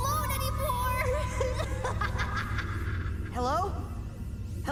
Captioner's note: laughter